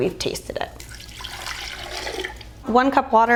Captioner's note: water pouring